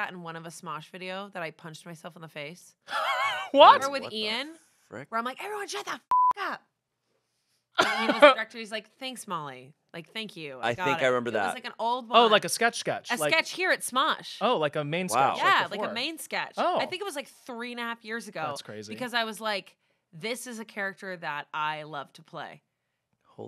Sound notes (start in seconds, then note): 2.9 laughs; 6.0 beep